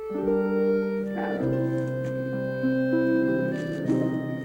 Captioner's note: low growling noises